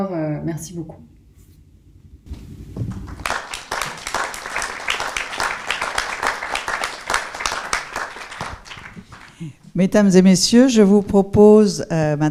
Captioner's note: applause ents